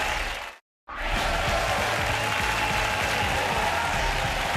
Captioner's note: audience cheers and applause; upbeat instrumental music